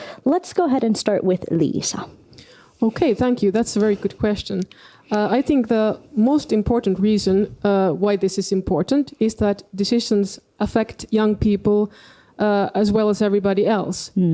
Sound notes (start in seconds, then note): none